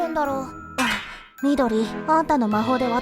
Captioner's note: gasp